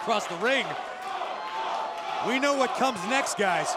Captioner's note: crowd cheering